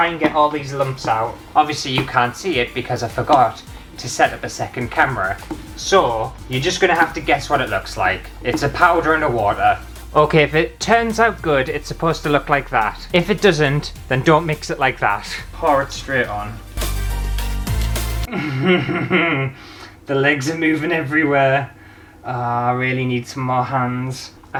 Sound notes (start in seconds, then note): 18.3 nervous Laughter